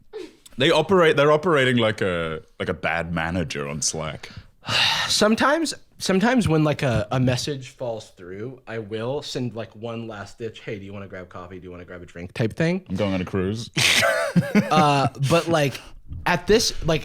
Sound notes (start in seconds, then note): 5.0 sighs